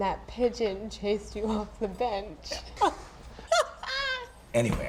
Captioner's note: laughing